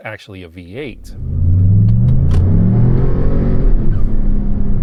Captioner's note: car engine rumbling